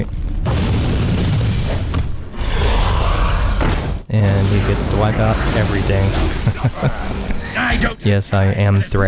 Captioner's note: haha